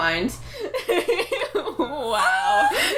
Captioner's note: laughter